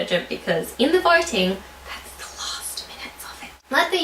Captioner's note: whispers